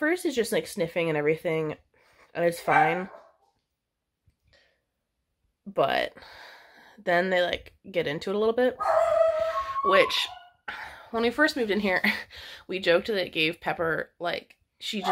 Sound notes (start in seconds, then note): 2.6 Pepper barks; 8.8 Pepper howls